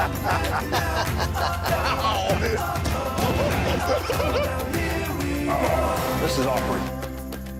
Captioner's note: laughter